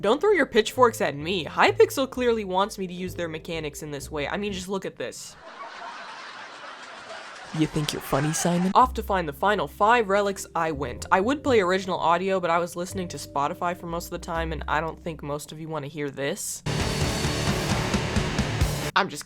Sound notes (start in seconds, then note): 5.4 canned laughter; 8.3 canned laugher; 16.6 heavy Rock Music